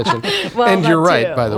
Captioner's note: laughter